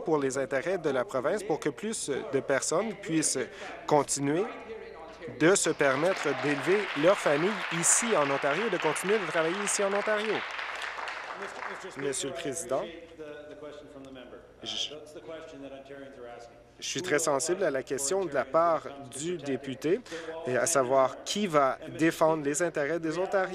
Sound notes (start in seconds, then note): 8.5 applause